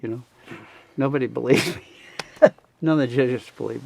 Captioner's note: laughing